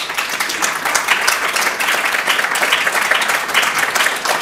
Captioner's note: audience applauding